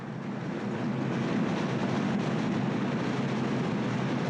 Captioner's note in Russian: шум реки